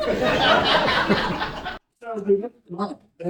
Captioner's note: laughter